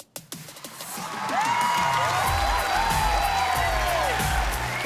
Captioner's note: applause and cheering